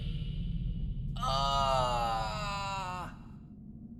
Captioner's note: ahhhhhhhhhh!